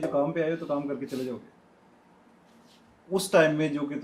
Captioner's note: sound made through the nose